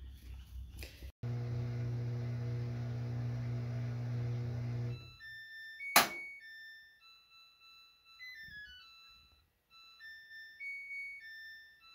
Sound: washing machine plays an absurdly long song to indicate the end of the cycle

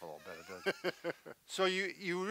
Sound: laughing heartily

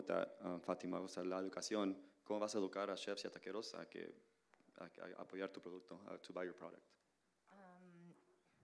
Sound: Spanish language

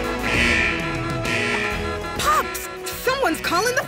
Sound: alarm buzzing

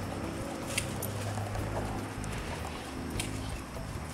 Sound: dogs panting

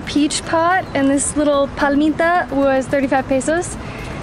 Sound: speaking in Spanish

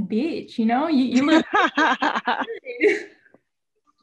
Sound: laughs

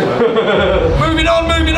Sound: laughs

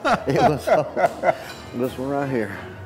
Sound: laughter

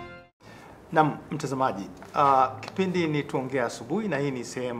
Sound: speaking in swahili

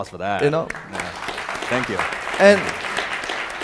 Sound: audience applauding

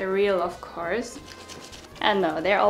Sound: plant shuffling

